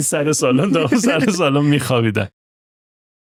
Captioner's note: laughter